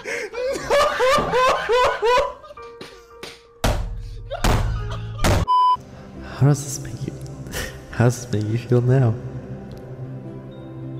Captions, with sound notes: NOO-HO-HO-HO-HO-HO!! *quietly* How does this make... How does this make you feel now...?